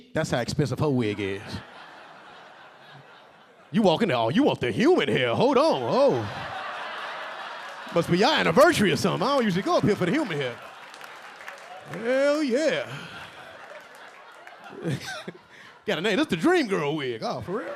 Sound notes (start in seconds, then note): 1.7 audience laughing; 6.1 audience laughing; 10.8 audience laughing and clapping; 12.8 audience laughing